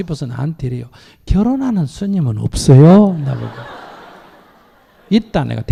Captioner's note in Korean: 청중 웃음